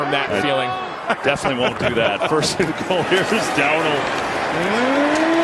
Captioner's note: laughing